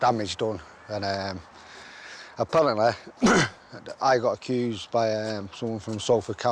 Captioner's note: clears throat